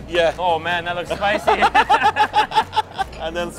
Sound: they laugh

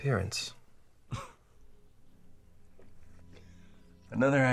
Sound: Scott chuckles

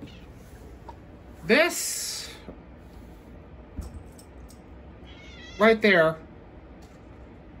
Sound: meows

